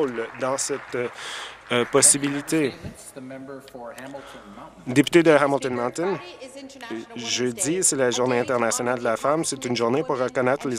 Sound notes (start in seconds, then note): 3.6 some Applause